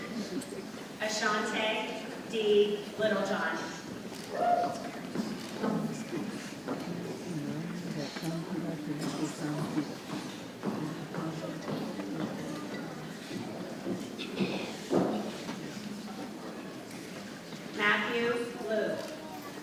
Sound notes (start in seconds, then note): 4.6 people chattering softly